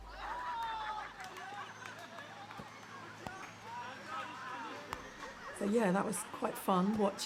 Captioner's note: distant people cheering and laughing